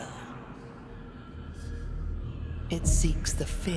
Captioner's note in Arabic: أزيز الريح المشؤومة